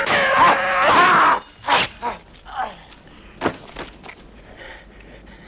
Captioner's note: man shouting; Hundra roars; man groaning; mutters